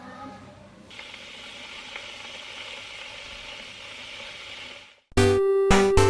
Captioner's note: kettle boiling